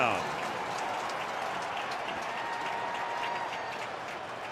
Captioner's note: crowd cheering